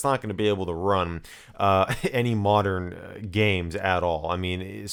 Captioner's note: giggles